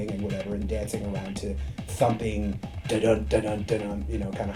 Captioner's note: imitates drumming